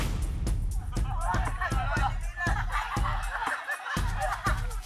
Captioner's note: laughs